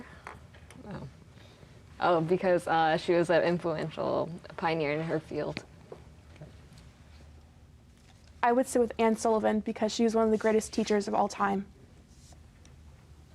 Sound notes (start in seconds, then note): none